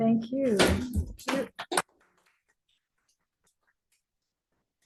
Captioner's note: applauding